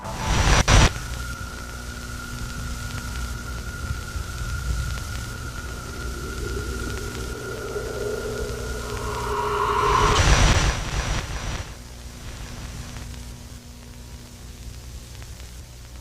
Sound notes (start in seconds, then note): 0.1 eerie ambient music; 0.1 static hissing; 10.1 static hissing